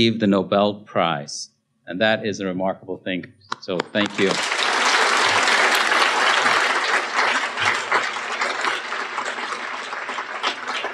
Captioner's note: applause